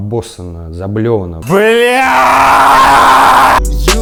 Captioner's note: Dud' yells; title card music